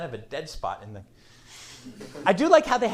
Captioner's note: laughter